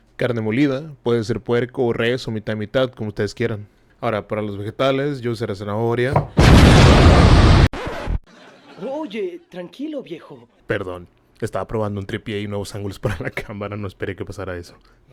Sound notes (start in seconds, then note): 6.1 heavy slam; 6.2 carrot exploding noises